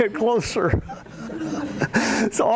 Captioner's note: laughter